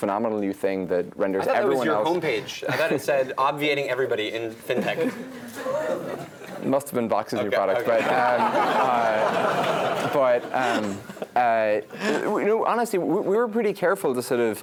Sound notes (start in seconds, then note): 4.7 laugh; 10.6 laugh